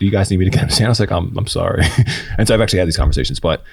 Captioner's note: chuckles